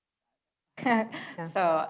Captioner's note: laughs